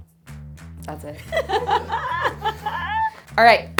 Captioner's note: upbeat music continues; laughs